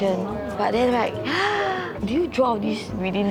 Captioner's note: gasps